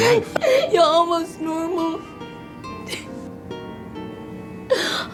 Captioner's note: crying